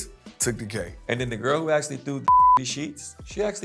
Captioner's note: beep